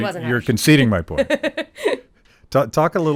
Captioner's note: laughing